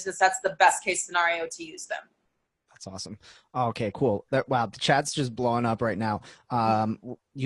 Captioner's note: none